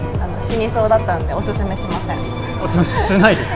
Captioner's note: haha